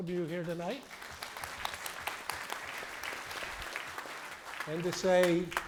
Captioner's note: applause